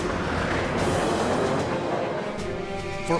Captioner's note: planes roaring